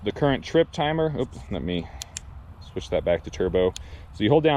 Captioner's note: button clicking